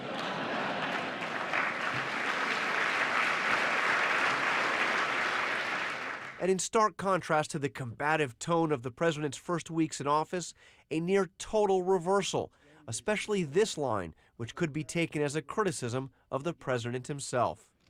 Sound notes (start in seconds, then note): 5.0 applause